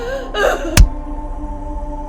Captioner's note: punching sounds